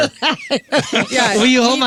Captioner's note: laughing